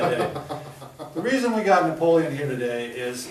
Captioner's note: chuckles